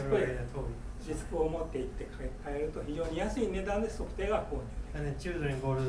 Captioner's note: speaking in foreign language